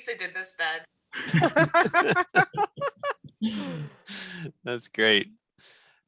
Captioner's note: people laughing